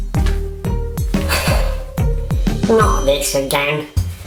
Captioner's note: bright upbeat; sighs